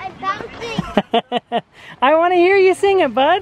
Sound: laughs

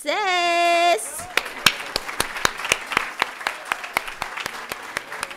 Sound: audience applauding

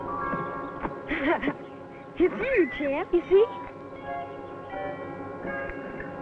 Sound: laughing

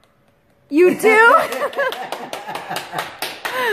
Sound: laughter

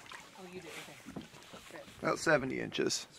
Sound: fish splashing

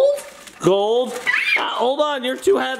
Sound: shrieks

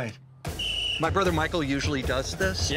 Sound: referee whistle blows

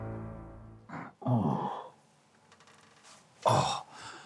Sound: groaning

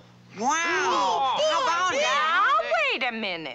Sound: excited Chatter

